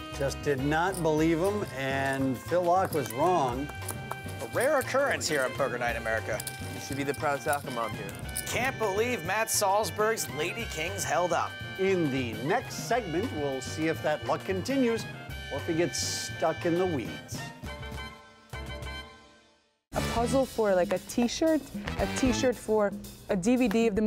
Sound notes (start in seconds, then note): 7.1 voiceover; 18.3 jazz trumpet